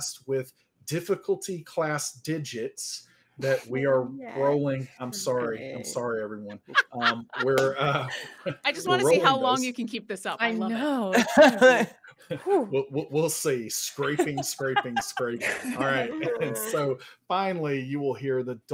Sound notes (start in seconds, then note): 11.1 all chuckling